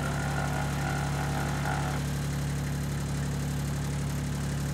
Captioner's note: sawing cutting wood